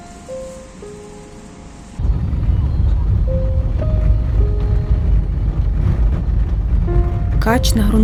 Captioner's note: car driving sounds